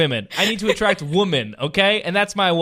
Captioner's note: laughing